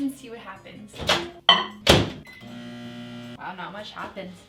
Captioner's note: microwave opening and beeping